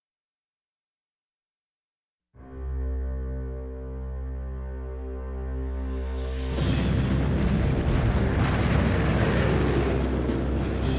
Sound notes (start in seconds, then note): 2.5 dramatic music; 3.2 guns booming